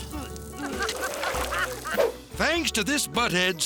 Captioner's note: people laughing